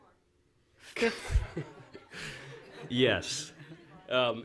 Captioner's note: laughing